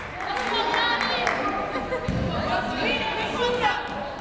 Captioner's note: yelling